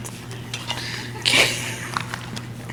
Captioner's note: audience laughs; laughs